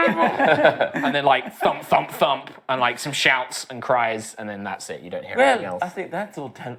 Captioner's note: thump thump thump